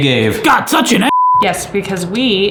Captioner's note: beep